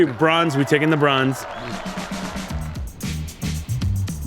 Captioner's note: people cheer; upbeat music